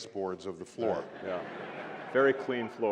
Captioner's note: laughter